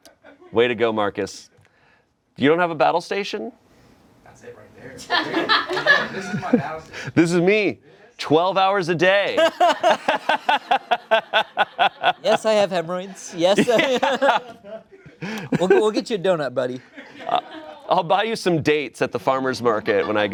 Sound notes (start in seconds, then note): 5.1 friends laugh; 9.4 laughing